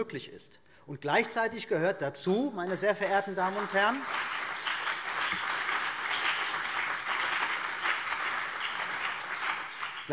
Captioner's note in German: Beifall CDU und BÜNDNIS 90/DIE GRÜNEN